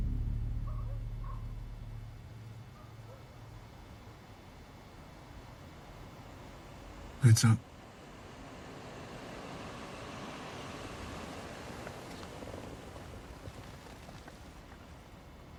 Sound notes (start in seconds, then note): 6.4 engine rumbling